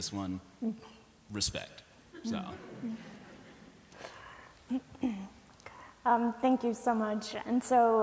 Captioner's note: laughter